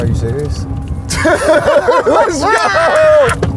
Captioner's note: laughs